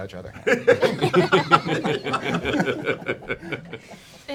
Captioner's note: laughter